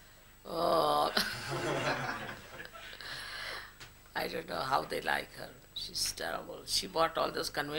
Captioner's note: everyone laughs